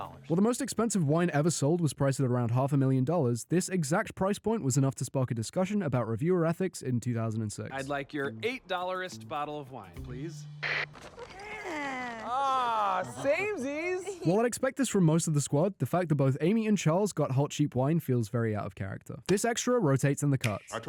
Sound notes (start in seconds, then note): 11.0 general squad happy noise